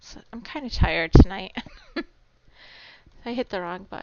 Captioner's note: chuckling